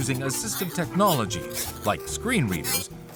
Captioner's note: buzzer